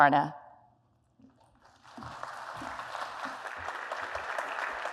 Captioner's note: applause